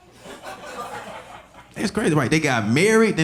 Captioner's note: audience laughing